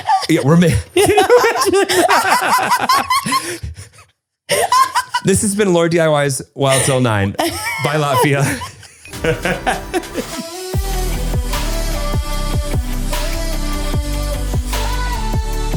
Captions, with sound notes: (both laugh) - This has been LauraDIY's "Wild 'Til 9", bye Lafia. (laughter continues) (upbeat music)